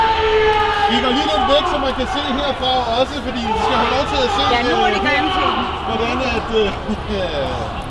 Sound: Muslims chanting in the background

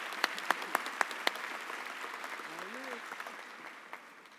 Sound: applause

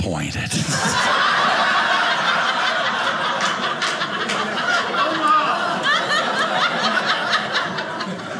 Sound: audience laughing

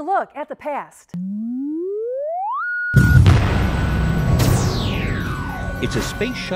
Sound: sound Effects

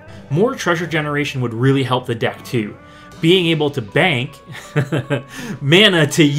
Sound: haha

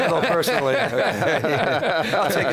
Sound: laughing

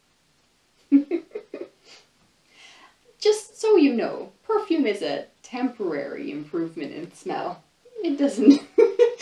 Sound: laughs; laughs

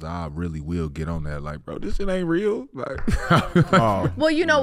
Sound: laughing

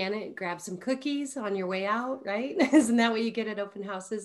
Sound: chuckles

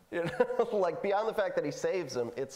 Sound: laughing

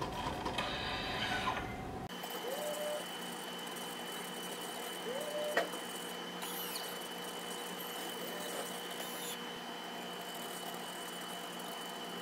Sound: mechanical whirring

